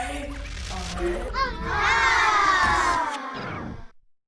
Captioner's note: children exclaiming happily